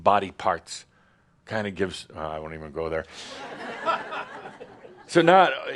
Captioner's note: laughter